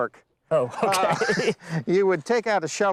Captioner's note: laughter